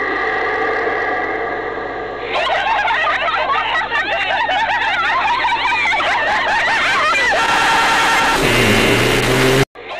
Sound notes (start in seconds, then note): 2.2 laughs